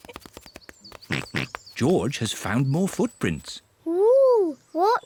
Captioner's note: mummy and daddy pig laugh; oinks